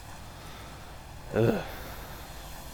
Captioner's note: sighs